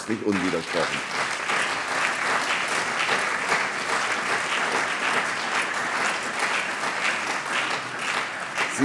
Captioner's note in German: Beifall CDU und BÜNDNIS 90/DIE GRÜNEN